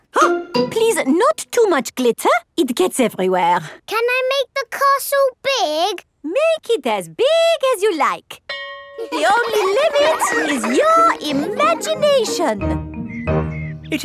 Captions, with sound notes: Huh? Please, not too much glitter. It gets everywhere. Can I make the castle big? -Make it as big as you like! -(SCHOOL BELL RINGS) -(CHILDREN LAUGHING) -The only limit is your imagination!